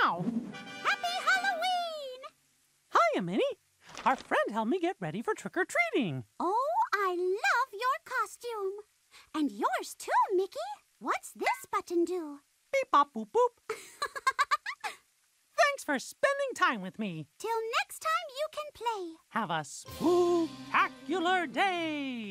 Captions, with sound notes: - Happy Halloween! - Hiya, Minnie! Our friend helped me get ready for trick-or-treating. Oh, I love your costume. And yours too, Mickey. What's this button do? - Beep-bop-boop-boop. - ( laughs ) Thanks for spending time with me. - Till next time you can play... - Have a spook-tacular day!